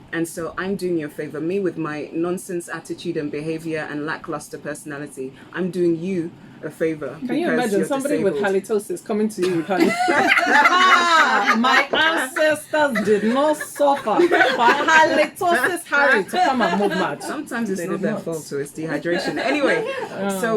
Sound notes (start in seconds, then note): 9.9 still laughing; 10.4 laughs